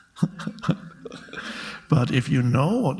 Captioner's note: Eckhart laughs